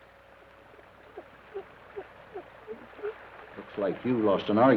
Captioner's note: rocker box squeaks rhythmically